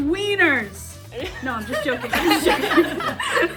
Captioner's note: everyone laughs